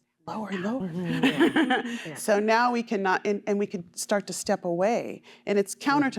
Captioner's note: laughter